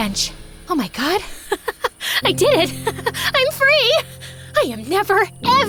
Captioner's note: laughs